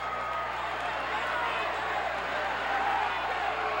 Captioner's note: cheers